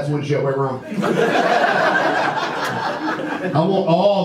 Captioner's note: audience laughter